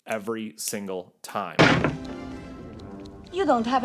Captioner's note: wood thudding